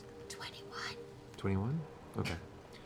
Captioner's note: whispers